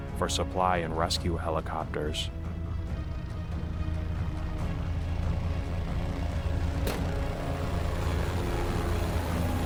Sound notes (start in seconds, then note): 3.1 helicopter rumbling; 3.1 tense music